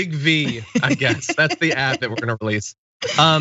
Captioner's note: laugh